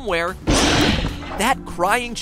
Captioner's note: rawr